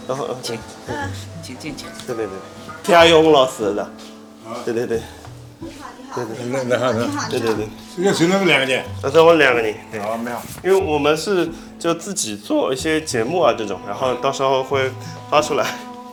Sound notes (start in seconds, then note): 4.4 wu Chinese; 8.7 wu Chinese